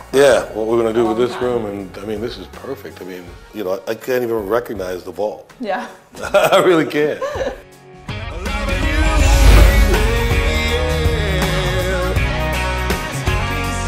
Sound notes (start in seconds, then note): 6.8 laughs